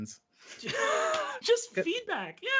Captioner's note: laughing